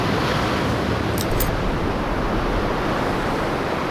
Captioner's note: click